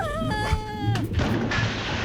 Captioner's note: tarzan call; crash